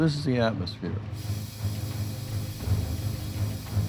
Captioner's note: gas hissing